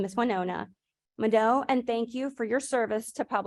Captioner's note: speaking in foreign language